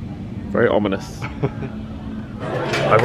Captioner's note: laughs